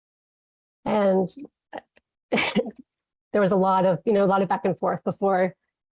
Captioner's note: chuckles